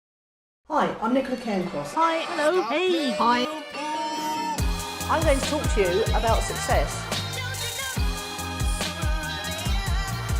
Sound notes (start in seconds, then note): 2.4 man shouts; 7.9 upbeat music